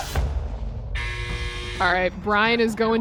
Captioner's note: alarm buzzing